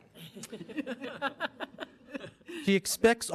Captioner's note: group laughing